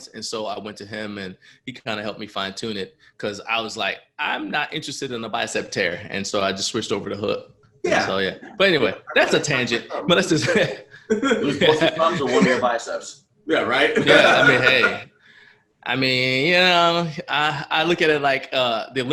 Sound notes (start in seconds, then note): 11.6 laughter